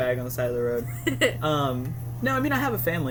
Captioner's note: laughs